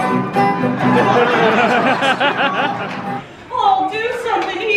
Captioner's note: audience laughing